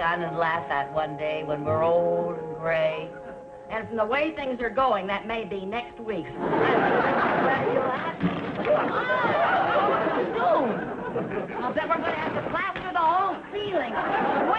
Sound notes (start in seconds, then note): 6.3 audience laughing; 8.1 plaster crumbling; 9.2 audience laughing